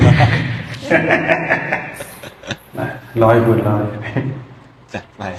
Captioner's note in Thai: เสียงหัวเราะ